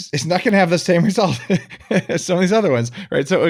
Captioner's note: laughs